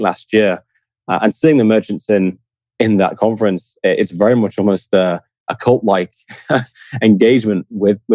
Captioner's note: laughs